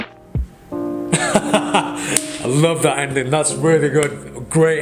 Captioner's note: laughs